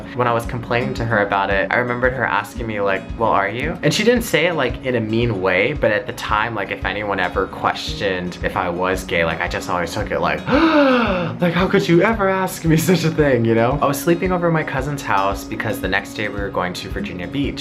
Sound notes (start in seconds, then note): 10.4 gasps